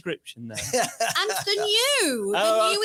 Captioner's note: laughs